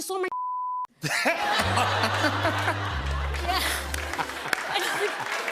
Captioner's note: laughter; sad tuba; applause